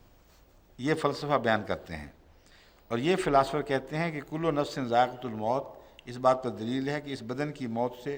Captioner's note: Arabic